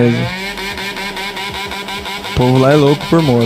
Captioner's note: motorcycle snoring